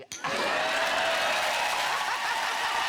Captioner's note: audience cheering